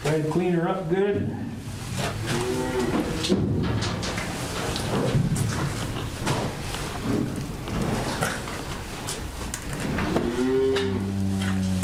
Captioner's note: cattle sounds